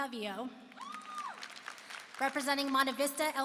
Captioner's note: applause and cheering